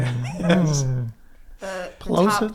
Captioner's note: laughs